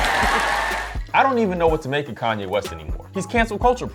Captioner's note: crowd cheering